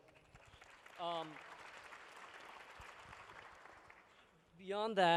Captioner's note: applause